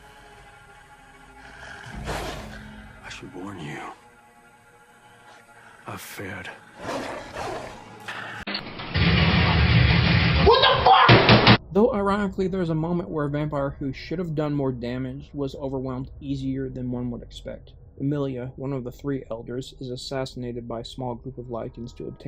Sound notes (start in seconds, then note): 6.6 hisses